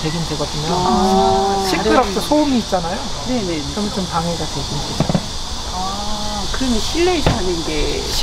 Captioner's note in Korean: 매미 소리